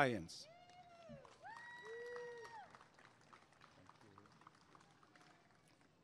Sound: applause and cheering

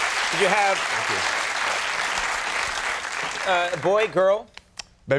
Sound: applause sustaining; audience applauding

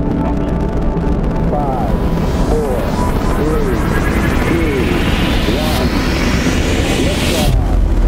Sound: radio voice 2

